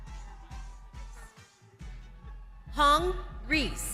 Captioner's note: crowd cheers